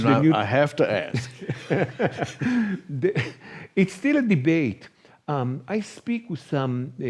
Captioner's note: laugh